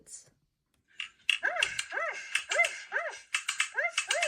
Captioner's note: dog barks